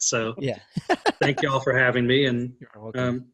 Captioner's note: laughing